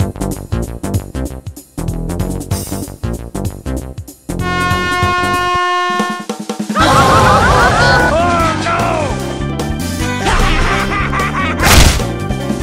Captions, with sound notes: *Blowhorn* AHAHAHAHHAA! Ohh no! AHAHAHA!